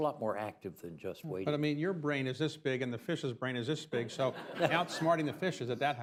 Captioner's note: laughter